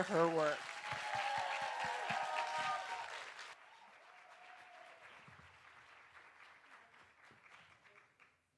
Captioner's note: applause and Cheers